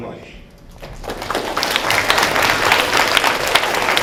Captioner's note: applause